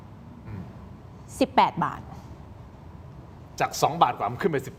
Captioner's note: clears throat